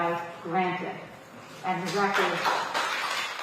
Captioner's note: applause